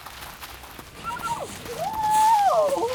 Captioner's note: squeals